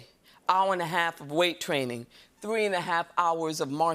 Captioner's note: none